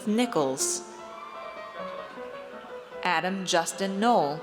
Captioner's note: audience cheers